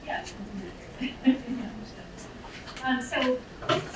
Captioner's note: laughing